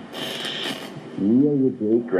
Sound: static crackles

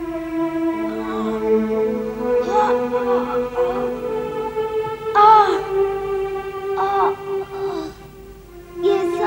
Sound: groans

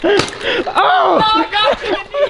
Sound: laughing; paintball gun hissing

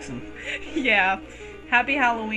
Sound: chuckles

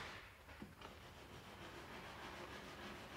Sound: sawing in the background

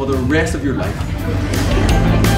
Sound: audience laugh

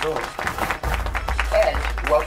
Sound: clapping

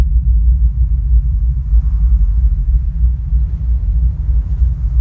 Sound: wind whistling

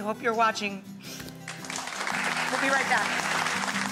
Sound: audience applauds; soft music

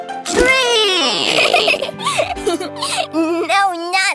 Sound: chuckles

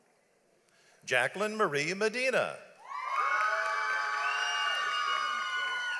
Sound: audience applauds

